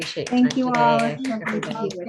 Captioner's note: clapping